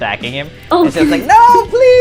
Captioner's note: laughs